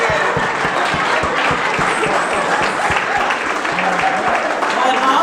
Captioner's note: audience clapping